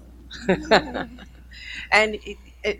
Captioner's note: laughing